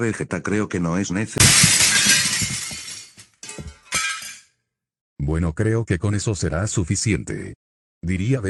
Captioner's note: sound of something breaking